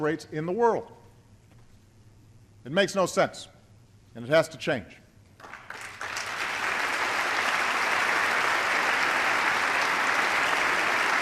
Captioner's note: applause